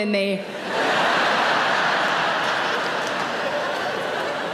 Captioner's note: audience laughs